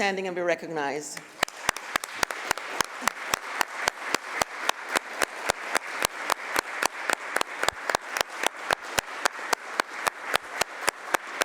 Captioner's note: applause